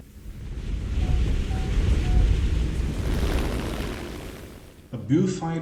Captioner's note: aircraft Engines ,Gunfire, Flying Sounds